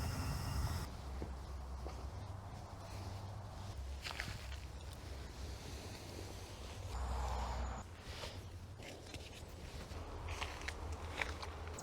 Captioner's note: packing away noises and forest crumbs crunching underfoot